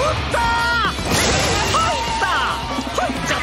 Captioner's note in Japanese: ２人の叫び声